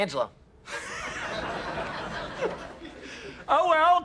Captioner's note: SHEFFIELD and class laughs